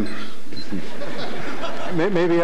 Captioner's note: audience laughter